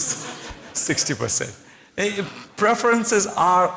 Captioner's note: laughter